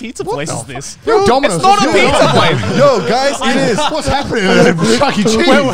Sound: group chattering

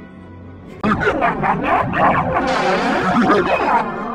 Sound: laughs

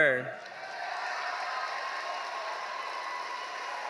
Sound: audience cheering

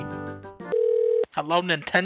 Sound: phone ringing

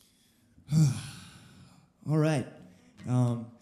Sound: sigh

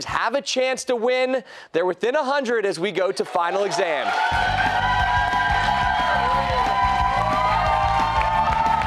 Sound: cheers and applause

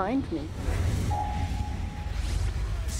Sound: voiceover

